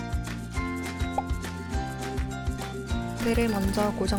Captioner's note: pop!